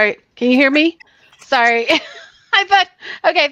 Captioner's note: laughs